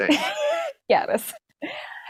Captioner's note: laughing